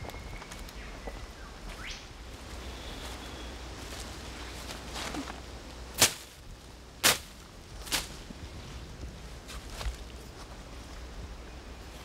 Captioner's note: birds Chirping